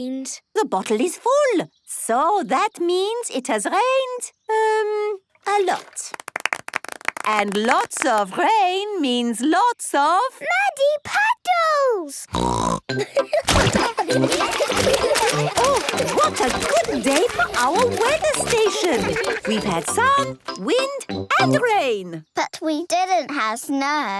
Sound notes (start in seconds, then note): 12.3 snorting; 13.6 laughter